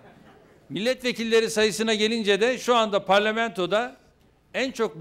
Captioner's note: non-english speech